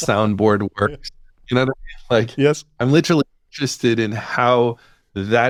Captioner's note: laughs